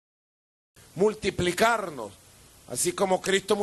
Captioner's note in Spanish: voz de Nicolás Maduro